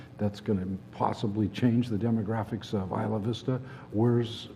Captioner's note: none